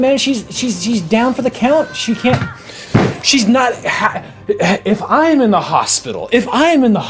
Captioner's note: hits table